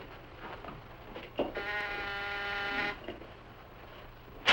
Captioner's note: buzzer buzzes